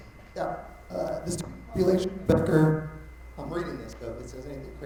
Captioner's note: mic cutting out